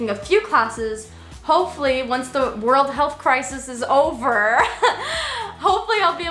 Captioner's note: laughs